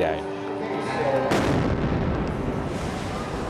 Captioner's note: explosion and screams